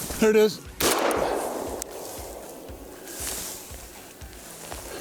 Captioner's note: gunshot firing